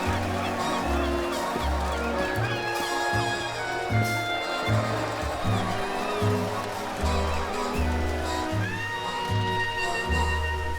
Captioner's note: crowds cheer, cast-off commences